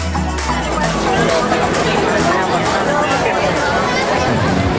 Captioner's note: crowd noise